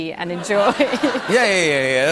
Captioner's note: laughter